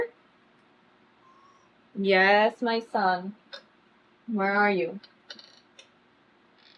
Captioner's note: gustavo meows